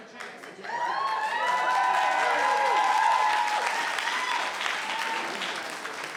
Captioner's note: cheering and applauding